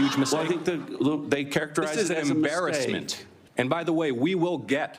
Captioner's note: laughter